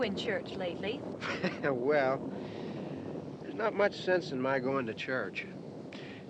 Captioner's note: chuckles